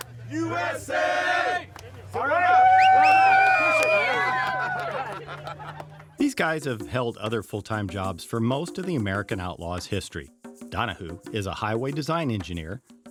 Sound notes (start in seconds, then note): 2.0 everyone cheers